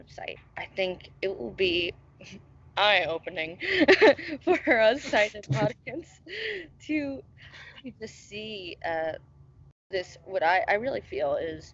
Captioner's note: laughs